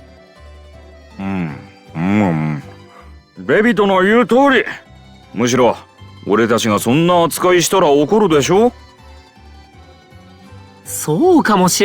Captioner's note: eating